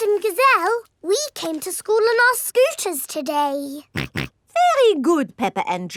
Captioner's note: snorts